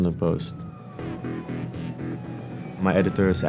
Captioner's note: sirens wailing